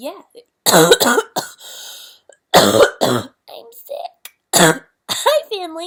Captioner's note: coughs